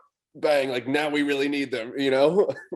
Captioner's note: chuckles